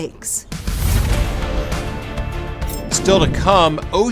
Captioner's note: air whooshing; triumphant music